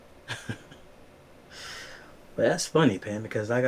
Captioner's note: Q laughs